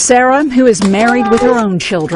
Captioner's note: laughing